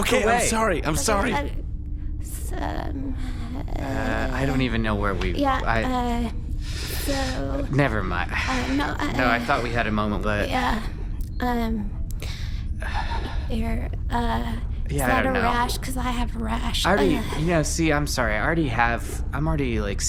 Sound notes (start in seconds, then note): 8.1 inhales; 8.2 sighs; 12.7 Fluff sighs